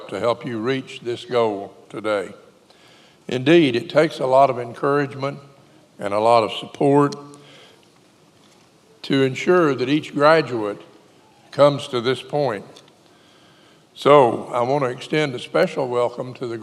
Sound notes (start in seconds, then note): none